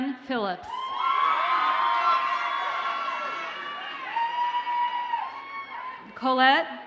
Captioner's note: audience cheers and applauds